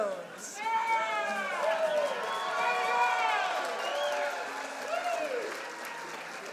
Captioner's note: audience applauding and cheering